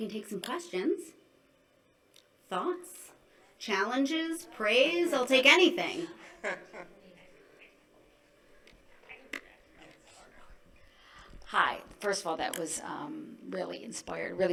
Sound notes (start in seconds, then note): 6.2 laughing